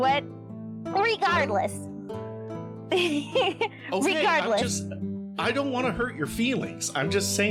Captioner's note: chuckles